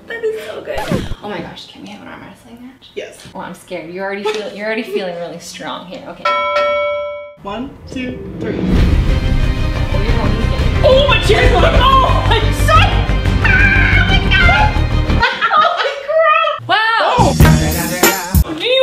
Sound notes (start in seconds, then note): 6.2 bell ringing; 9.1 intense music; 17.2 hip hop music